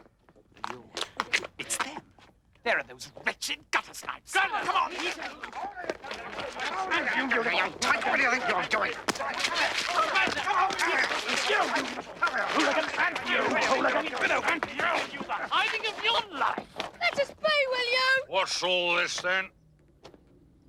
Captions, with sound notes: - It's them, there are those wretched guttersnipes. - Get 'em, come on. (Hullabaloos shouting) - I got you, you little tyke. Where do you think you're going? (shouting) - Come here, hooligans. - And you, hooligan. - Give you the hiding of your life. - Let us be, will you. - What's all this, then?